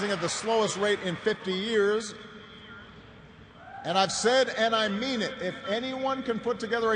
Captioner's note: cheers and applause